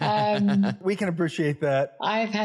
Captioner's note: laugh